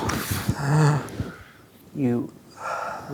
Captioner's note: groans